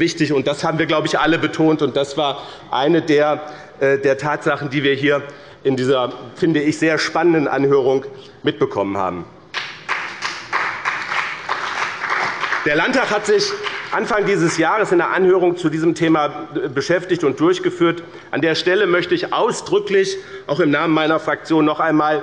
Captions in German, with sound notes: Das haben wir alle betont. Das war eine der Tatsachen, die wir in dieser sehr spannenden Anhörung mitbekommen haben. (Beifall bei dem BÜNDNIS 90/DIE GRÜNEN und der CDU) Der Landtag hat sich Anfang dieses Jahres mit einer Anhörung zu diesem Thema beschäftigt. An der Stelle möchte ich auch im Namen meiner Fraktion noch einmal